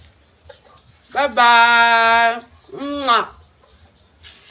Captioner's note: kisses